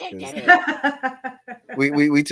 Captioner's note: laughing